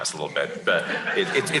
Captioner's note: laughter